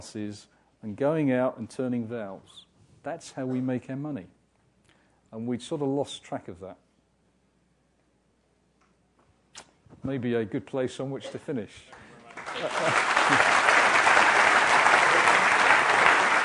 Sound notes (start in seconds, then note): 11.9 applause; 12.4 laugh